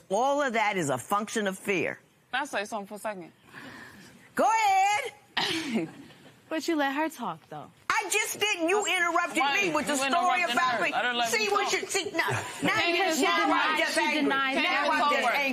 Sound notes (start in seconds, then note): 5.5 laughter